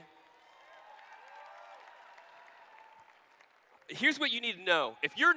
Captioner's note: applause